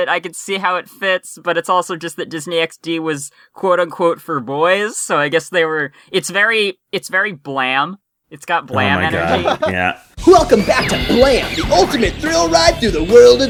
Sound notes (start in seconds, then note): 10.5 as Blam! voice